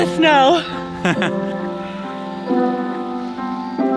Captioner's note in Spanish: riendo